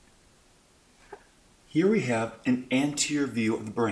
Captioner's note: voiceover